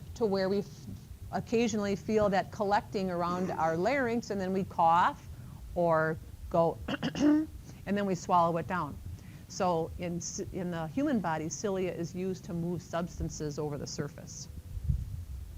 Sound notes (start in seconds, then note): 6.9 clears throat